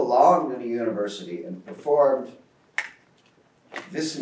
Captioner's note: speaks in foreign language